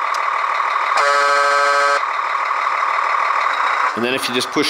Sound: honking

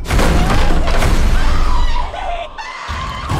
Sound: screaming; thriller music

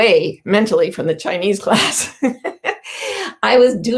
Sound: chuckles

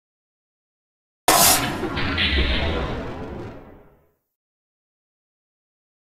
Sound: sound of robot

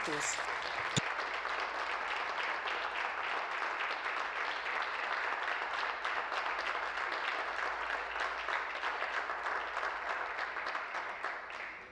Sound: applause

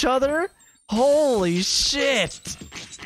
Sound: in a surprised WTF tone

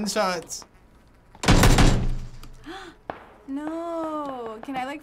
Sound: gasps; guns firing

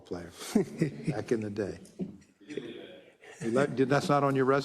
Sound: laugh

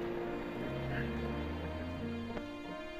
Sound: vehicle approaching

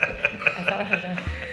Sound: all laughing

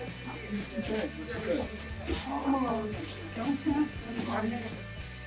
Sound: people talking

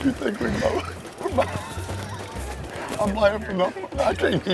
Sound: laughing

